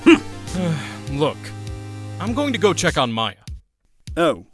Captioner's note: sigh